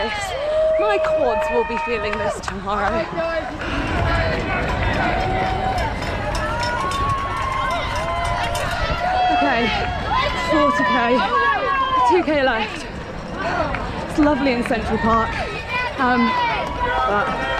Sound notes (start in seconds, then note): 3.3 crowd noise